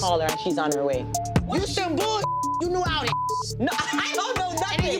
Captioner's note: beep